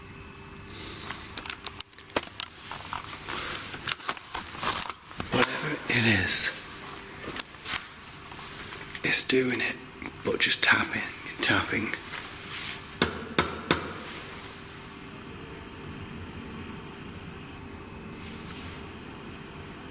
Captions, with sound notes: Whatever it is, is doing it but just tapping, and tapping. (tapping on door)